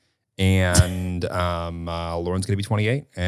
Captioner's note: laughing